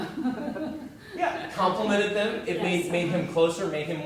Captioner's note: laugh